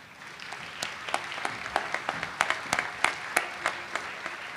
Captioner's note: audience applauds